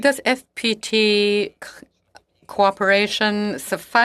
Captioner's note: speaking French